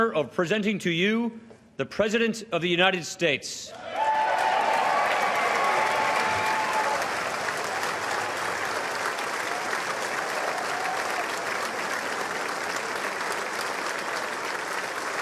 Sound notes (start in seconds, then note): 3.8 applause